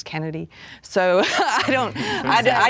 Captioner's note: laughing